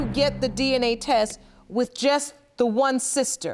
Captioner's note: none